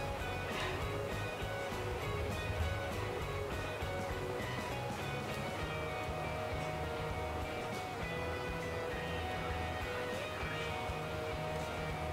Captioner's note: laughs